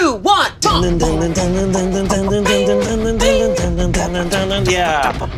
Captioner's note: both vocalizing intense music